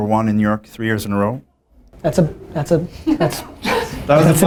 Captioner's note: laughter